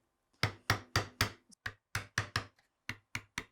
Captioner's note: hammer tapping